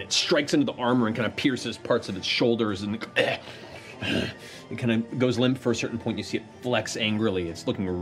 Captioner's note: grunts